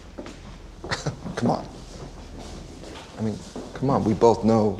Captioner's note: chuckles